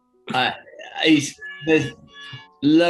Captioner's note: klaxon